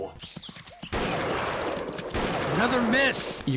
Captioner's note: gun shot